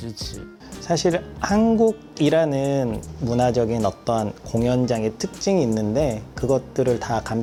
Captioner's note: speaking in Korean